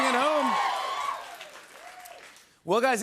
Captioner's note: cheers and applause